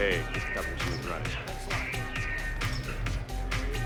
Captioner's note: indistinct conversation